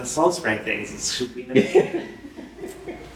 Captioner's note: laughter